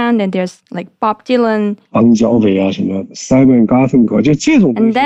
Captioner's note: speaking in Mandarin Chinese